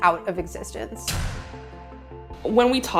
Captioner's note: banging sound